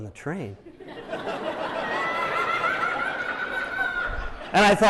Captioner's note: laughter